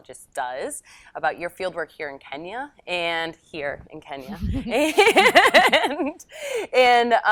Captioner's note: laughs